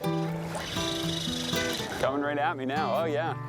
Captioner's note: fish grunting